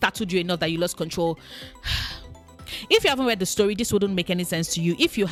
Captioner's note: sigh